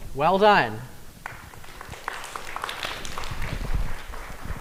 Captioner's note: applause